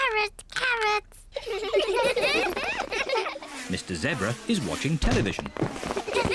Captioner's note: all giggle